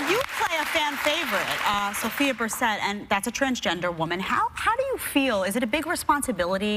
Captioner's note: cheers and applause